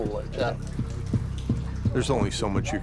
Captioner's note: thudding